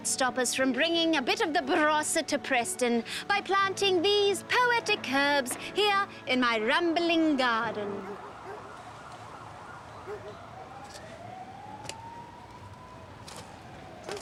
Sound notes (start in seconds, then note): 7.7 police siren, dogs barking